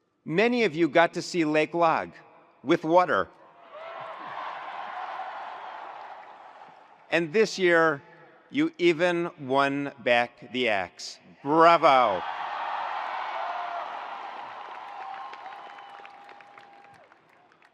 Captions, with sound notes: Many of you got to see Lake Lag with water. (attendees laughs) And this year, you even won back the Axe. Bravo! (attendees cheering) (attendees applauding)